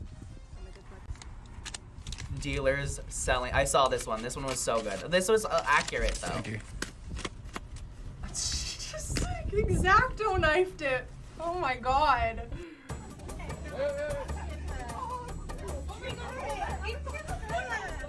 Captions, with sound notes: - Dealers selling-- I saw this one. This one was so good. This was accurate, though. - (snickers) Just, like, X-Acto knifed it. Oh my god. - (women exclaiming)